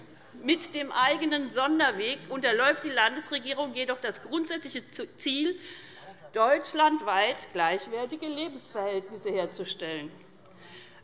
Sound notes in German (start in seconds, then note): none